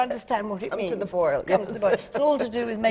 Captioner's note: laughs